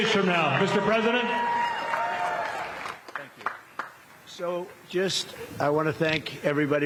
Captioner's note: cheers and applause